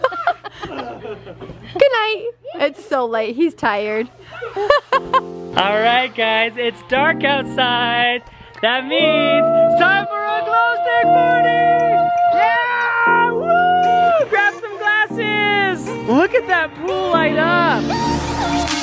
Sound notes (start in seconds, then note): 11.7 cheering; 18.6 dance music